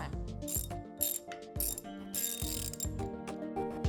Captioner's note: wrench ringing; calm music